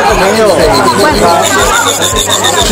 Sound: crickets chirping

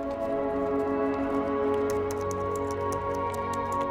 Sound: typing

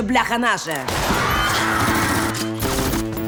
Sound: crowd screams; gunshot

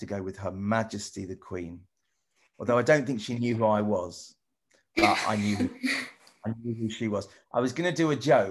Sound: laughs

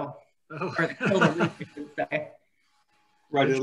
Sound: laughing

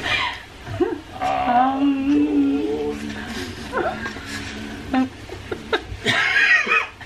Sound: deep ritualistic humming

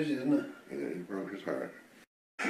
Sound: quieter

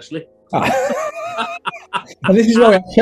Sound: laughing

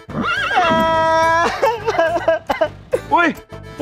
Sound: crying

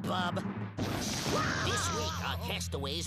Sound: Daffy screaming

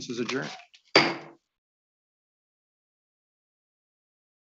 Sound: gavel banging

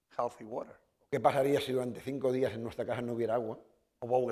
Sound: speaking spanish

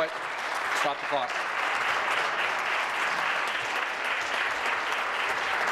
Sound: applause

